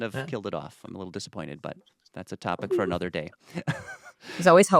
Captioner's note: laughs